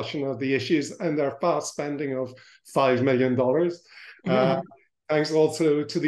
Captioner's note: laughs